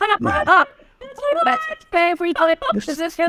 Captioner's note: laughing